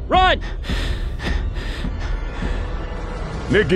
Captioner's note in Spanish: suspira